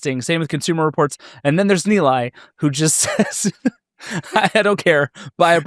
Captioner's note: laughs